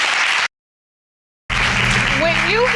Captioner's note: audience applauding